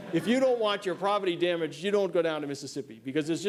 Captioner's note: laughter